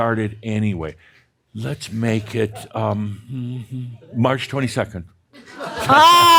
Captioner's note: laughter